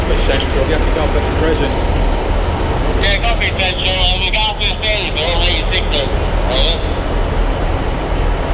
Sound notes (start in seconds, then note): 3.0 walkie talkie sounding in background